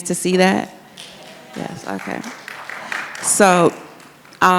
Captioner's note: audience claps